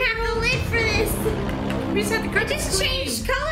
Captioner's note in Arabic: ضوضاء مثيرة